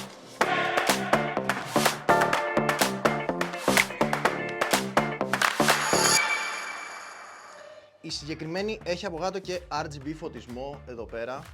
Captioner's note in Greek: χειροκρότημα